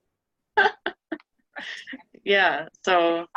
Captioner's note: laughing